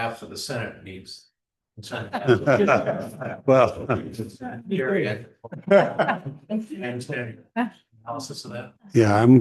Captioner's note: chuckling